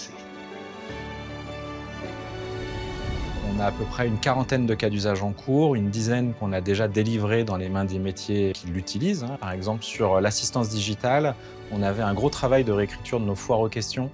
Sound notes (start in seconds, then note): 3.4 non-english